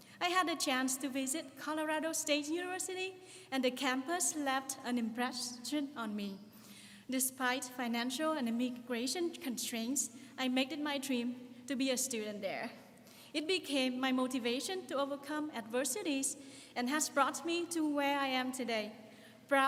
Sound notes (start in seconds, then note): none